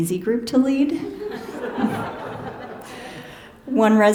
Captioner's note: laughter